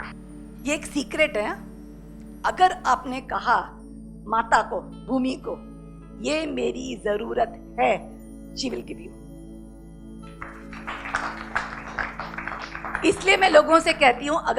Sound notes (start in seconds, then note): 10.3 audience claps